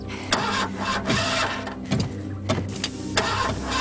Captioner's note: Engine Cranking